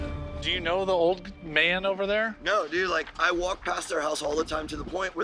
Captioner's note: none